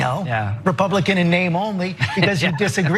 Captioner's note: laugh